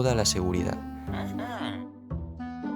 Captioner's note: hhm-hmmm